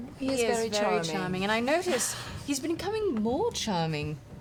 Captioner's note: none